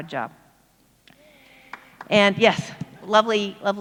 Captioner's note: applauds